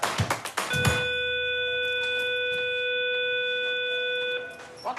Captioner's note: school bell ringing